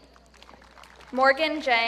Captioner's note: audience clapping